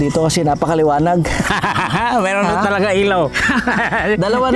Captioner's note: laughs